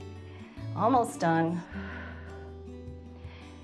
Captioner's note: exhales